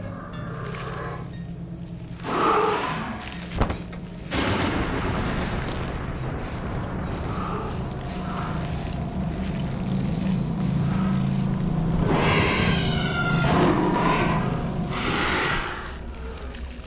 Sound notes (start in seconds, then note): 4.3 thunder crashing; 7.0 labored breathing; 12.0 monster cries & roars